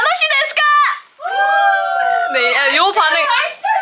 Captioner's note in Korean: 환호